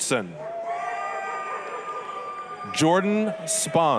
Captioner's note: applause, cheering